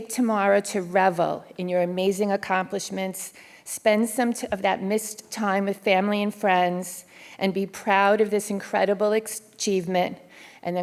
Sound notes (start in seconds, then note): none